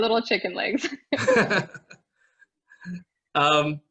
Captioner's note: both laughing